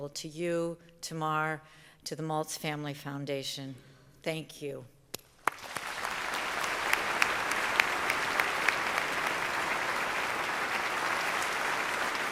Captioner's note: applause